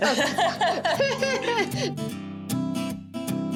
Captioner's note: Pati and Vivian laugh